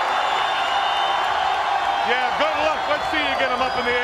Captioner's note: crowd cheering